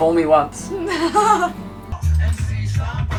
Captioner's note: laughs